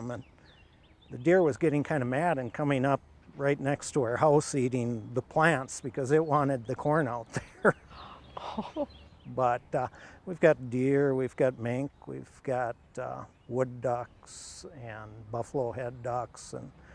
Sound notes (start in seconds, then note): 7.2 chuckles; 9.9 gasping